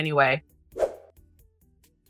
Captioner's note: swoosh